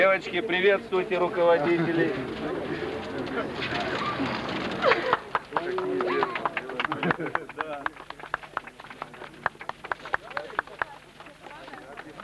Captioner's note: applause